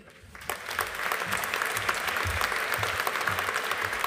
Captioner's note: audience applauding